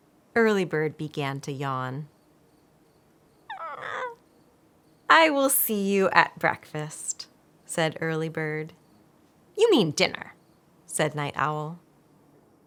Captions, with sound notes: Early Bird began to yawn. *yawnig* “I will see you at breakfast.” said Early Bird. “You mean dinner?” said Night Owl.